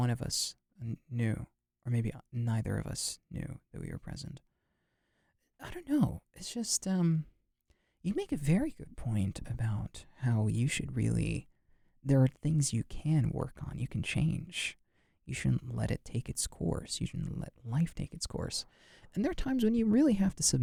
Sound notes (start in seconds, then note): none